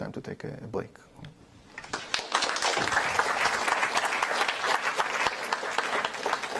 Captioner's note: applause